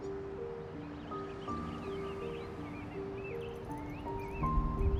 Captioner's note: birds singing